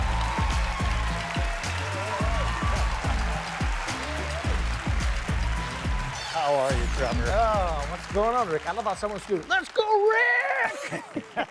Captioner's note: applause